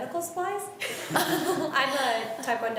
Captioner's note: laughs